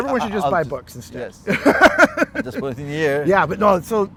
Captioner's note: güler